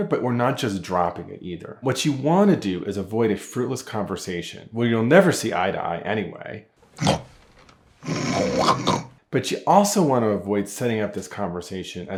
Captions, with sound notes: but we're not just dropping it either. What you want to do is avoid a fruitless conversation. Where you'll never see eye to eye anyway. (woman snorting) But you also wanna avoid setting up this conversation